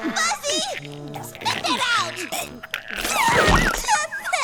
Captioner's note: Horrible gagging noises as Greets pulls harder